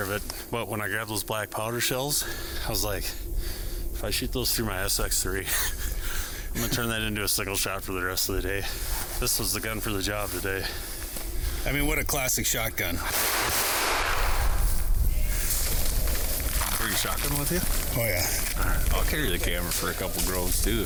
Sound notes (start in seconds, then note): 13.0 gunshots ring out